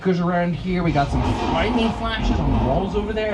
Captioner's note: wind howls